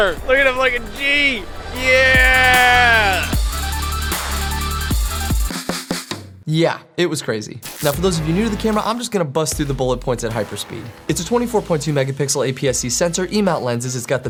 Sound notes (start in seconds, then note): 1.6 upbeat electro music; 7.4 laser zaps